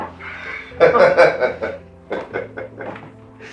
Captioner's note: both chuckle